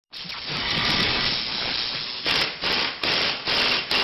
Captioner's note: drilling sounds